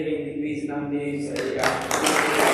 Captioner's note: applause